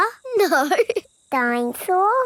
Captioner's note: laughing